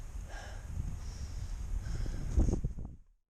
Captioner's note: sighs